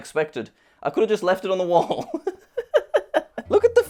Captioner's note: laughs